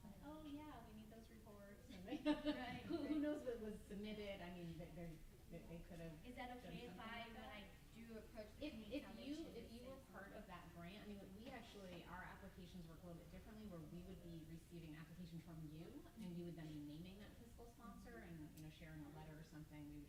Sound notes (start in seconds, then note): 2.2 murmuring